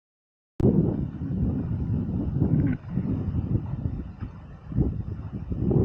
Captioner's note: wind